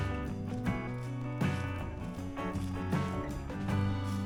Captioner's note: wind Blowing